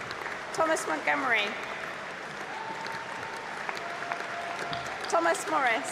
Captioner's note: applause